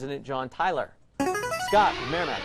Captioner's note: player buzzer